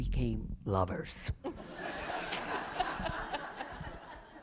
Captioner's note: laughter